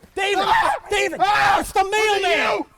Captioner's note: screaming